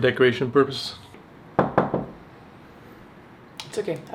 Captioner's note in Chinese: 敲门